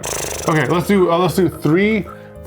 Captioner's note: blows raspberries